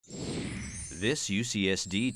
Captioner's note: whooshing